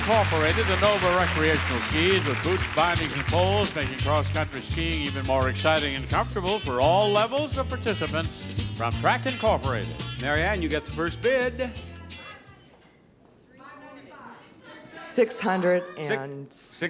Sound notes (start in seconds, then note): 11.6 audience chatters